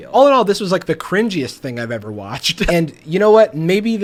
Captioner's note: laughs